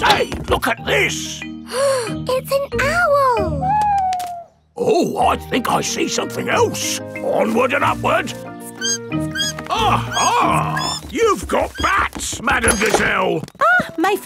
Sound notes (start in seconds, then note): 2.2 gasps; 8.6 bat squeaking